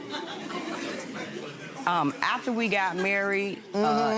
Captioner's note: laughing